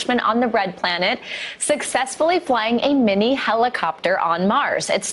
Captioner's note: none